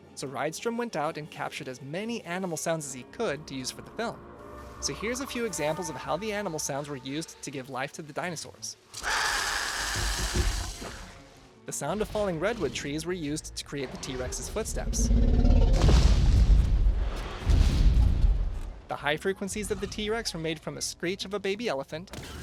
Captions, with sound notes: so Rydstrom went out and captured as many animal sounds as he could to use for the film. So here’s a few examples of how the animal sounds were used to give life to the dinosaurs. [Growling Dilophosaurus] The sound of falling Redwood trees were used to create the T-Rex’s footsteps. The high frequencies of the T-Rex were made from the screech of a baby elephant,